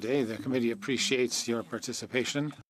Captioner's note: speaking French